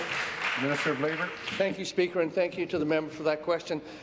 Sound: applause

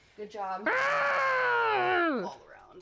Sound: growling

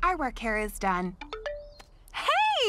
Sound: phone ringing

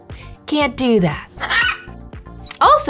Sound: Bleep Bleep squawks

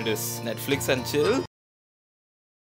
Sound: akward silence

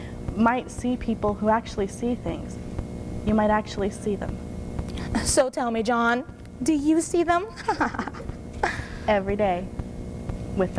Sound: giggling

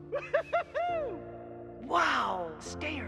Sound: laughter

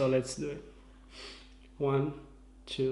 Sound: sniffs

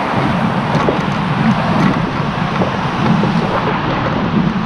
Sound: wind whirring

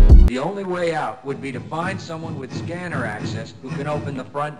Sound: loud footsteps approaching

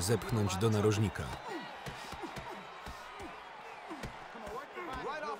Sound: audience cheering

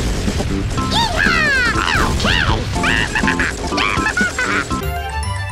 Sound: crazy laughter

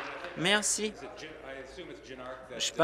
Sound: applause

